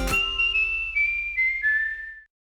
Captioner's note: whistling